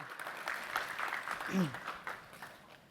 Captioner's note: applause